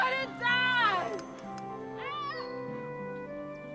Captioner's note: yells